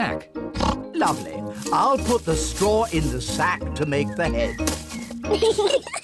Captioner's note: oinks; both giggle